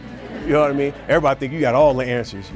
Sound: audience laughs

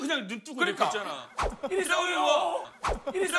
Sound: swoop!

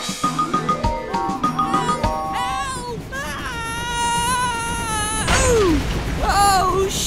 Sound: whistles; screams

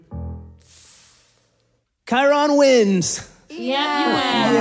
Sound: sucks in a breath

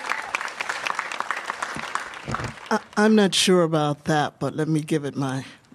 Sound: applause

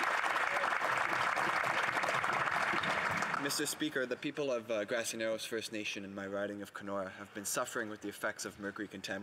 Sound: some Applause

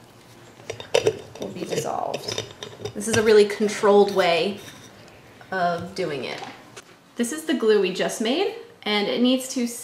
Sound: sound of lid being screwed onto jar

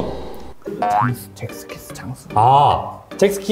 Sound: whispering

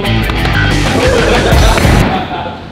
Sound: slapping; lads laughing

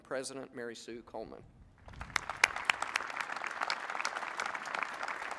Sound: applause

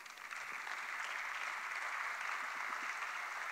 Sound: applause

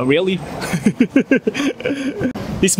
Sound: laughs

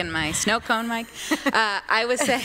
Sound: laughter

